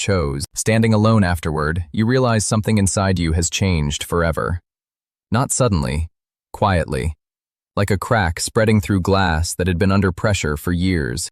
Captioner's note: thoughtful